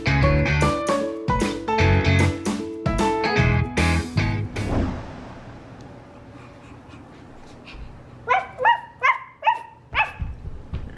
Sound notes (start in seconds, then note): 4.7 imitating a dog; 4.7 panting